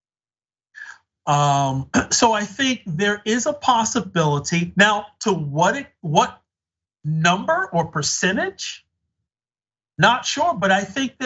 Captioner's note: cough